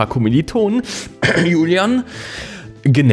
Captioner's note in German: hust